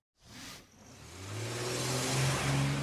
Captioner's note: engine revs